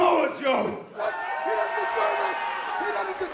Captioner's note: cheers and applause